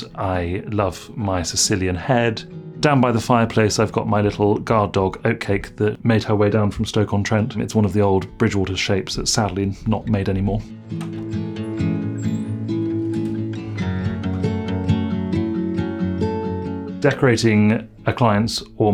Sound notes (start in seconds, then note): 10.0 bright guitar music; 10.9 door squeaks